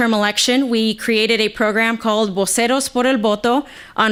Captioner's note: speaking foreign language